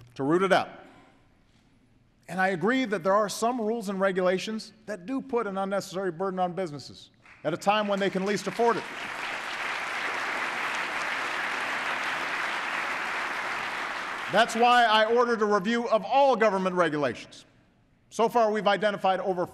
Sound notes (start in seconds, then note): 13.3 applause